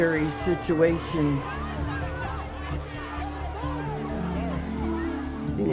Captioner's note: crowd clamoring